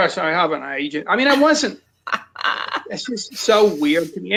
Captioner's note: laughs